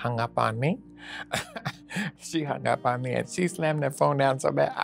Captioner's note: laughs